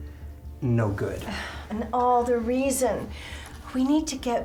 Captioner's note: sighs